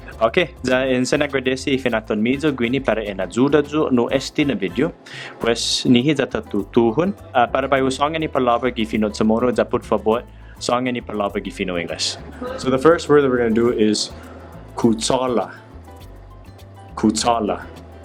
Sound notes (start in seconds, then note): 11.7 Spanish